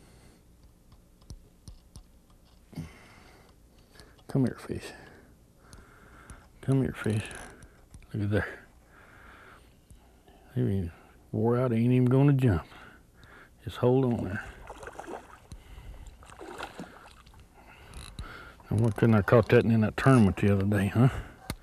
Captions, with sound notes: come here fish come here fish lookie there. he is wore out he is not even going to jump just hold on there [splash] [splash] why couldn't I have caught him in the tournament the other day.